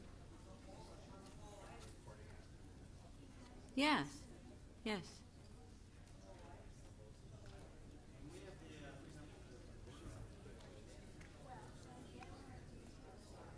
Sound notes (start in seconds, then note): 2.1 off microphone